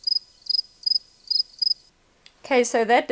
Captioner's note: crickets